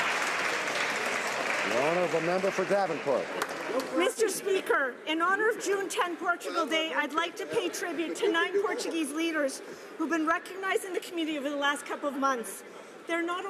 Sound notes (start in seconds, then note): 2.1 some Applause